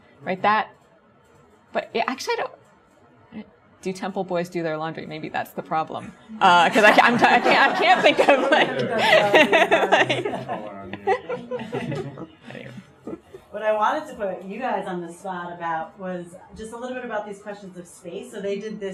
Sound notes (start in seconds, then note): 6.4 chuckles; 6.5 audience laughs; 12.8 laughs